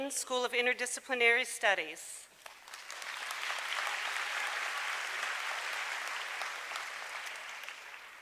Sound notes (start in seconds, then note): 2.4 applause